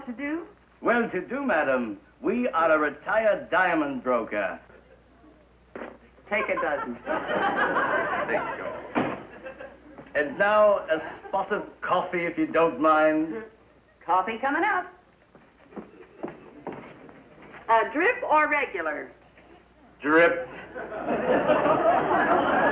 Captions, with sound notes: - Well to do Madam, we are a retired diamond broker. - Take a dozen. - Thank you. - And now a spot of coffee if you don't mind. - Coffee coming up. Drip or regular? - Drip. (laughter)